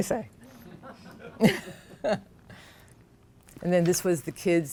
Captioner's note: laughter